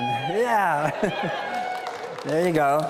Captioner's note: audience cheering; scattered cheering